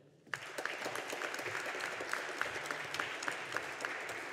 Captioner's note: audience applauding